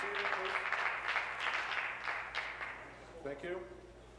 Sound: applause

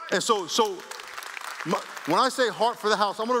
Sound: applause

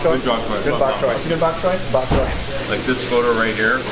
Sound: laughing

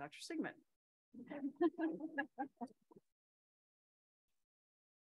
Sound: everyone laughs

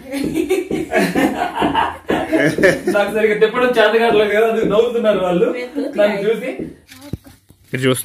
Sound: all laughing

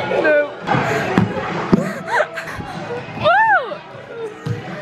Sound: people talking and laughing

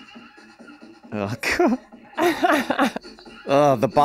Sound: Glenn laughing

